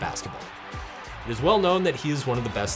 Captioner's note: crowd cheering